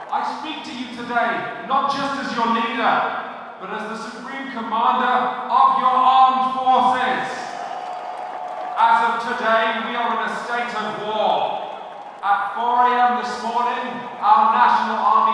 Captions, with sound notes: I speak to you today, not just as your leader but as the supreme commander of your armed forces. *cheering* As of today, we are in a state of war! At 4am this morning, our national army